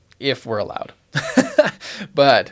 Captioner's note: chuckles